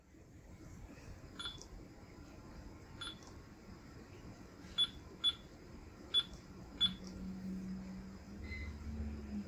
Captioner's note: beeping